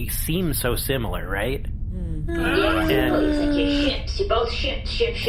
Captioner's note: everyone makes uncertain noises